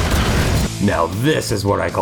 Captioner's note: zap